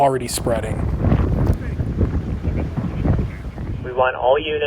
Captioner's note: wind blowing